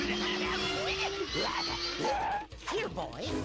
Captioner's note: growling